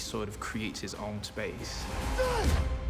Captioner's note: grunts